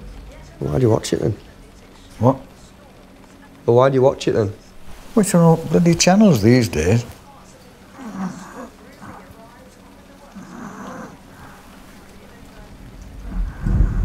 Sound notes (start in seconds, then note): 7.6 Arthur draws air from respirator; 11.1 thunder rumbles